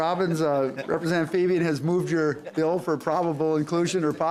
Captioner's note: laughter